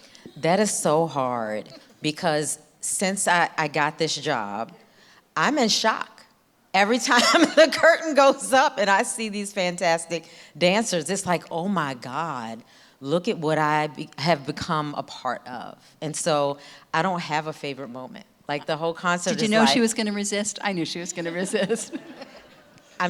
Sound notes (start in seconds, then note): 6.9 laughing; 20.9 chuckles